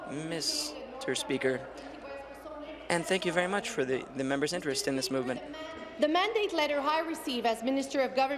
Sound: speaking in french

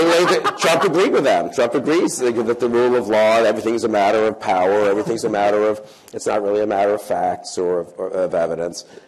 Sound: laughter

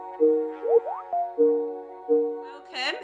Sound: Microsoft Teams ringtone

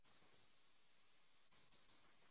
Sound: none

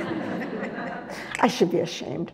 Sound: audience laughs

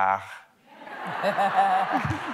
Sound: laughter

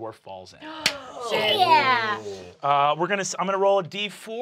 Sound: gasping

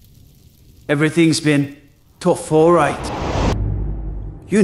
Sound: flashback swoosh!

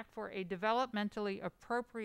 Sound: none

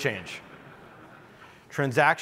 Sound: audience chuckling

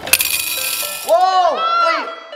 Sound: candies jingling

